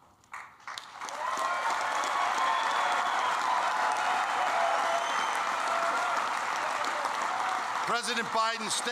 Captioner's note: applause